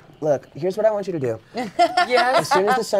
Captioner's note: laughs